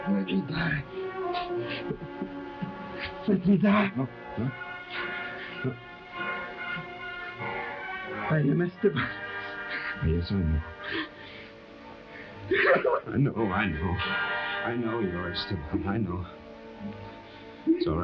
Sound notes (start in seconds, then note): 12.5 Esteban sobbing